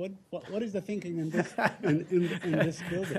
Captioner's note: laughter